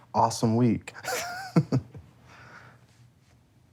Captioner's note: laughs